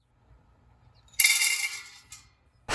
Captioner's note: wooden Pellets Hitting Metal